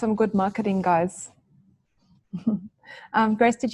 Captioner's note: laughs